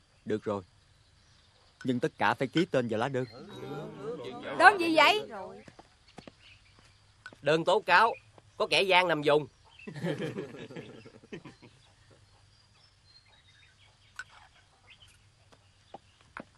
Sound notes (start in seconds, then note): 9.8 laughing